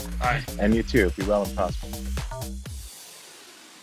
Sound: laughs

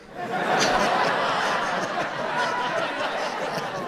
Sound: audience laughing

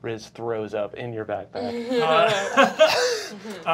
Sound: laughter

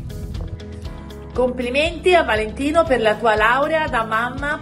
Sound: non-english speech

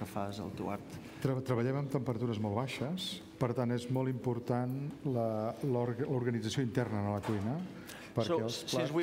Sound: speaking catalan

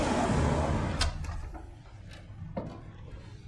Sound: door opening

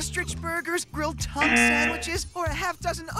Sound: error buzzer

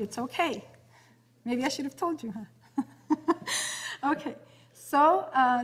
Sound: laughs

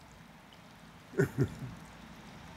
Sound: laughs

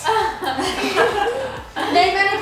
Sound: laughing

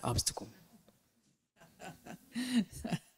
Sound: laughter

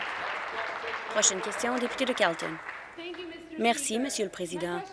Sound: applause

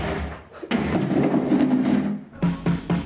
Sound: door clatters; knocking

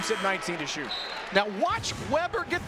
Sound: whistle

